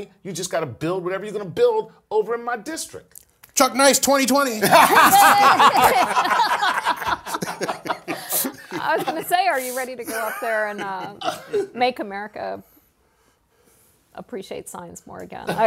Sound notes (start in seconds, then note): 4.6 laugh